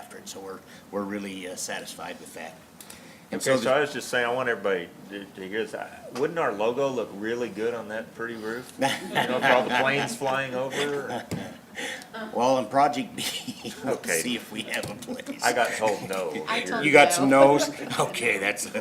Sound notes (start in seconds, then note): 8.8 laughter; 12.3 laughing